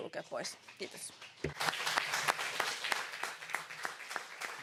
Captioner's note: applause